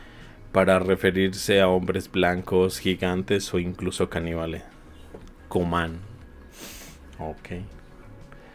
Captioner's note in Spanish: resoplido